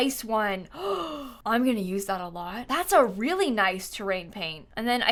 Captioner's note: gasps